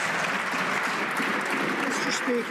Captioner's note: some Applause